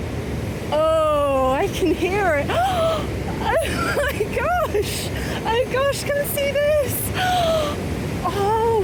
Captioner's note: gasp